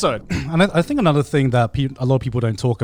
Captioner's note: clears throat